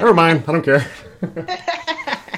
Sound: laughter

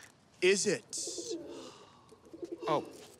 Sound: dove cooing

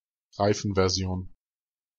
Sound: fast Pronunciation

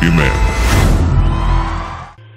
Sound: cheering

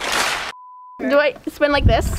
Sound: beeps

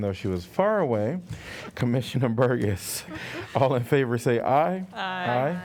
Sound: laughter

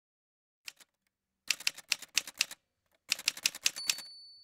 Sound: typewriter sounds

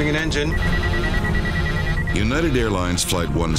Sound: monitor beeping

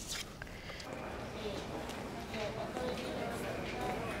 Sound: background chatter

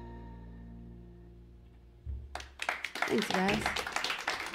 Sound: music fades; cheers and applause; applause

